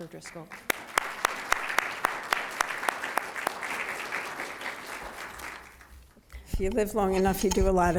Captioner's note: applause